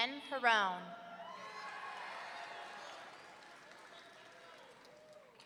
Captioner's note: audience cheering